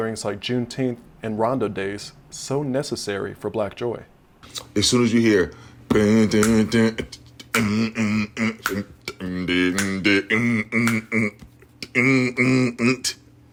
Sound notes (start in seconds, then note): 5.9 beatbox